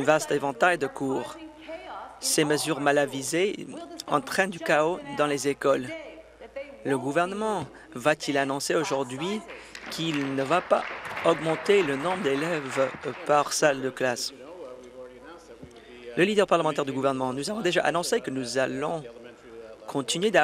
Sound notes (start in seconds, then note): 13.0 applause